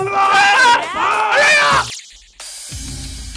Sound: screams

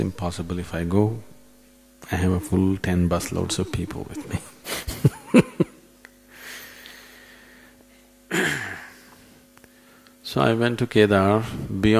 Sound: laughs

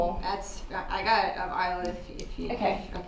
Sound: Alice muttering

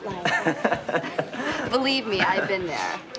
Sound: laughing

